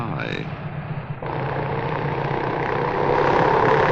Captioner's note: engines blaring